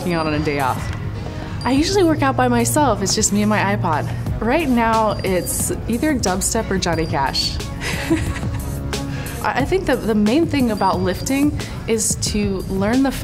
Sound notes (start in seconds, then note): 7.8 laughing